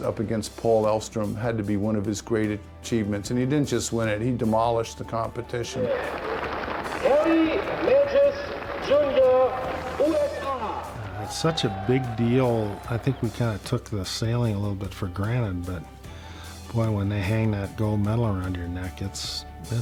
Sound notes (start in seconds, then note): 6.2 crowd applauding